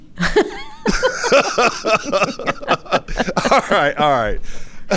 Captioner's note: laughs